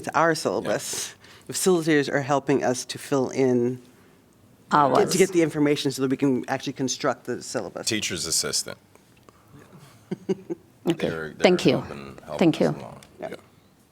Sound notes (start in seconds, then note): 10.0 laughter